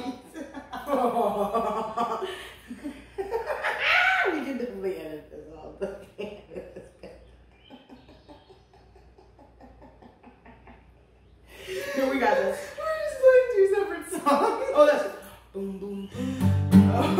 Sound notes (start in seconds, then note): 5.8 laughter; 16.2 strums; 16.6 plucks banjo